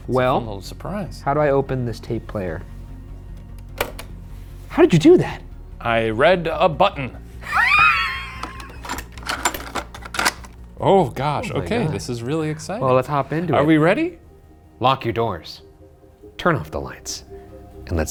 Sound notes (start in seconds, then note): 3.7 button clicks; 7.4 laughs; 8.3 tape player clicks